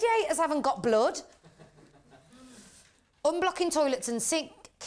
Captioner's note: chuckles from the audience